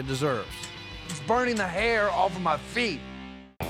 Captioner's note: stomping